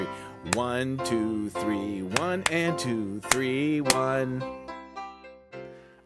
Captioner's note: clapping; clapping